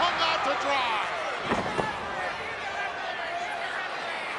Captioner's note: Virgil thuds